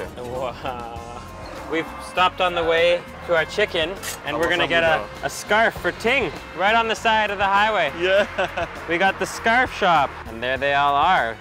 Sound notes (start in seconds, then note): 8.0 laughs